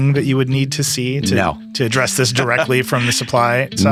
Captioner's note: laughing